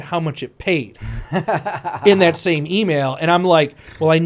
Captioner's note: laughs